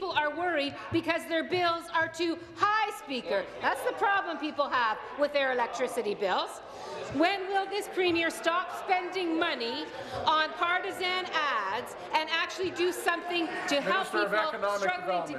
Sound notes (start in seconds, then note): none